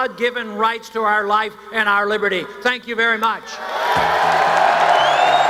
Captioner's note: cheers, applause